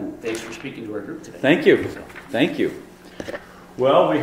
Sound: voiceover; voiceover

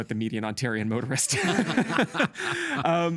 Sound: both laughing

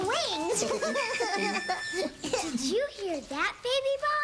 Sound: ribbit ribbit

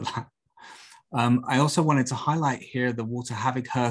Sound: laughter

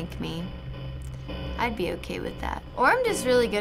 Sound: in game: static buzzing

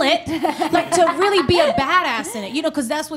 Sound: laughs

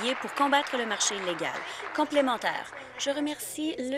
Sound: applause

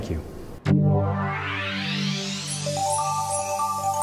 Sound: digital tones

